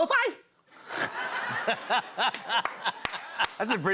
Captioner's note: laughter